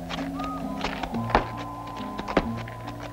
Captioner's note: bangs